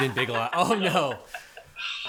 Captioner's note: laughs